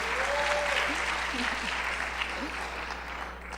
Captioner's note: cheering and applause